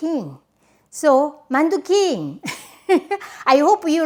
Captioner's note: chuckling